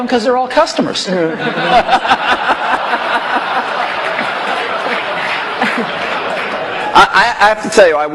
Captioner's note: laughter